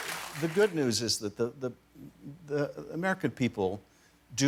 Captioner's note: cheers and applause